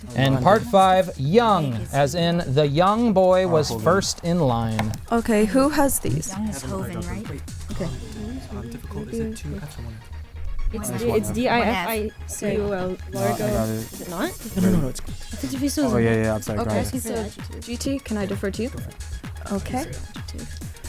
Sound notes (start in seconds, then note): 5.1 wispering